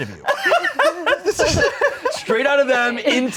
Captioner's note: laughing